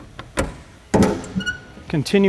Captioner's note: spare tire carrier closes